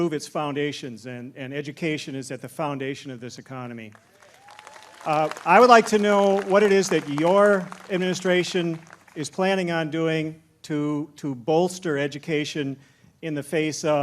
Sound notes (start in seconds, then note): 3.9 applause